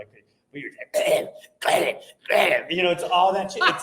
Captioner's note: throat clearing